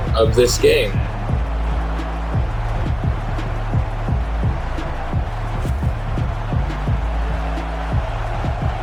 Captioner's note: crowd Noises